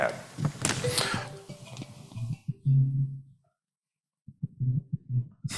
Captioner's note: phone ringing